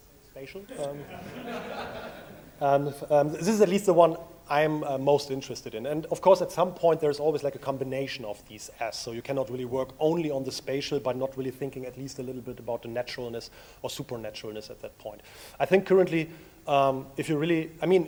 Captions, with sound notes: Spacial um. (audience laughs) This is at least the one I'm most interested in. And of course at some point there's always like a combination of these S, so you cannot really work only on the Spatial but not really thinking at least a little bit about the naturalness or the supernaturalness at that point. I think currently,